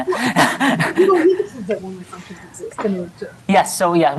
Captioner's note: laughter